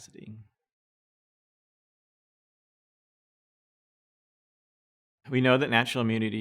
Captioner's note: silence